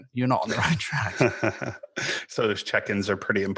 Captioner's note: both laughing